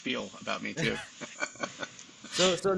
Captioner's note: both laughing